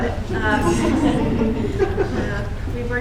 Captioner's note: laughter